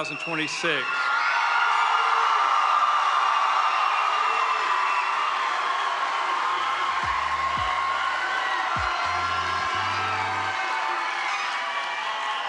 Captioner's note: crowd cheers